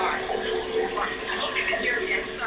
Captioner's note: static noises